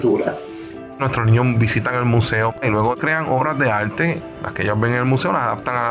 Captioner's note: speaks foreign language